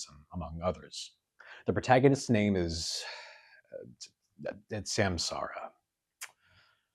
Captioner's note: sigh